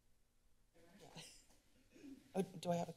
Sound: chuckles

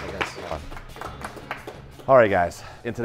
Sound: chefs clapping

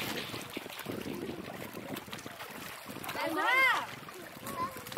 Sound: waves lapping

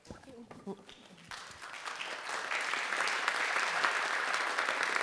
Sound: audience applauding

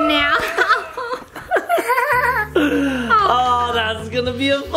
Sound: all laugh

